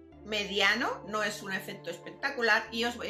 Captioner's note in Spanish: none